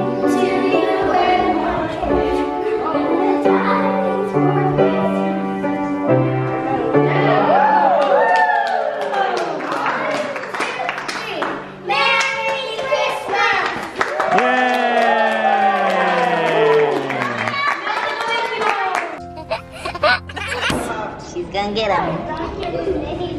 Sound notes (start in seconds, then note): 7.4 cheering; 15.3 clapping; 19.3 laughing